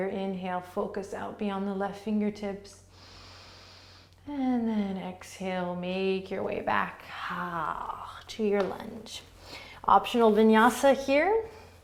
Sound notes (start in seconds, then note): 2.9 inhaling